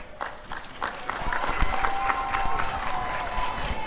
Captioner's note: applause and cheering